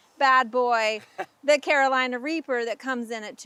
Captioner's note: chuckles